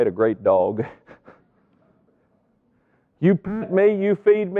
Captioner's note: laughs